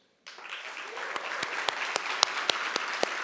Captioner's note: applause